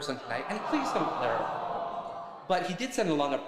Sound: crowd groans

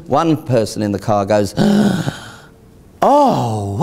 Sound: gasps

